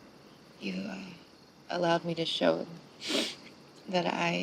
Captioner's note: sniffs